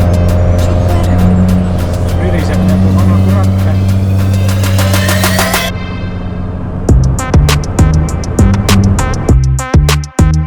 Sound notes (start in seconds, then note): 1.9 sounds like an old tractor